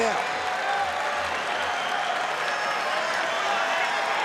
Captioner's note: crowd cheers